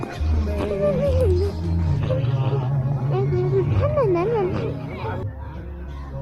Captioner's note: murmuring